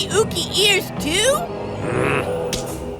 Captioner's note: growls